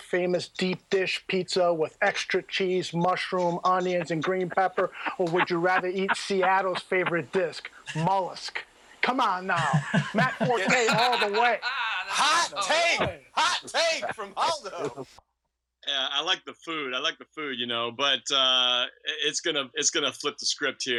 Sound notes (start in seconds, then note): 9.5 laughing